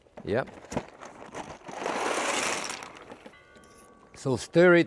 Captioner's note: pasta rattles